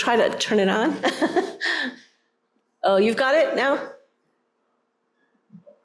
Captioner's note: laughter